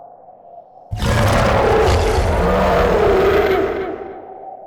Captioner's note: creature snarling